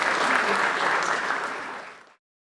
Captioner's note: applause